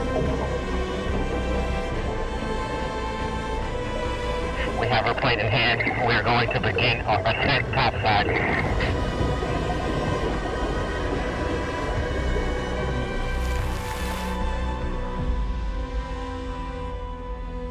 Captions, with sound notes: (somber music continues) We have her plate in hand. We are going to begin our ascent topside. (water splashing)